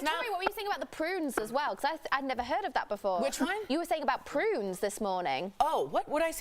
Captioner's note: laughter